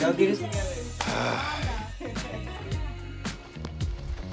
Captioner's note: sighs